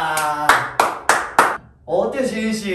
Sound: clap clap clap

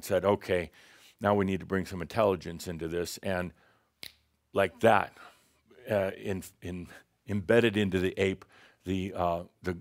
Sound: snap!

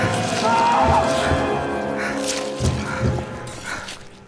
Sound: squishing; shouting; squishing

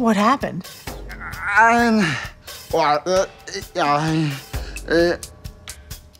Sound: indistinct moaning

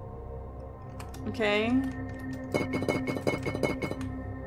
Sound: wall Rattles

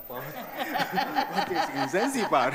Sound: audience laughing; chuckles

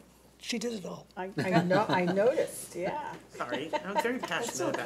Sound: chuckling

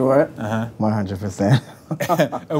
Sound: laughs

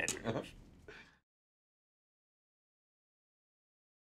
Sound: interviewer laughs

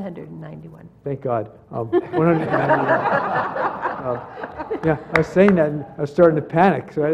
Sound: laugh

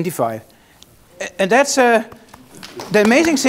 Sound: applause

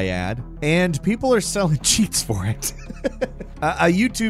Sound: laughs

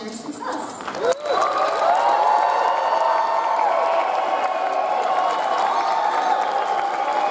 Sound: audience applauds; audience cheers

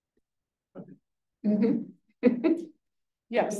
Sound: student faintly speaking; instructor chuckles

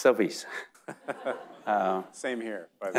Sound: audience laughing

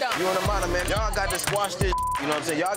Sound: beep

